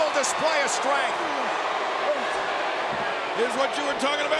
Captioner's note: audience cheering